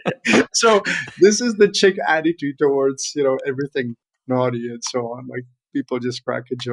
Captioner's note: all laughing